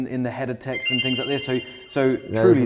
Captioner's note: graphics chiming